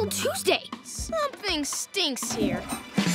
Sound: toilet flushing

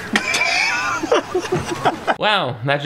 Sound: surveillance team laughs

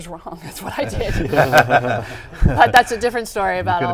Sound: laughing

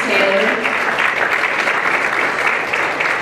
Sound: applause

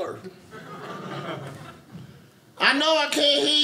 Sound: audience laughing

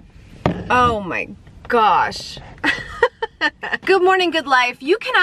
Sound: laughs

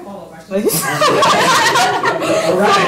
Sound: laughter

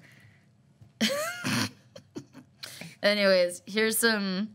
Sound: laughter

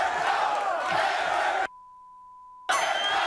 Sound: beep

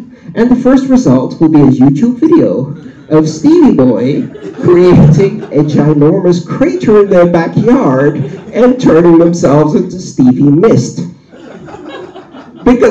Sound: blowing; laughter

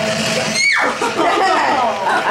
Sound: giggling

